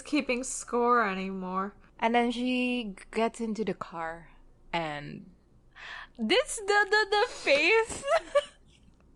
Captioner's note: laughs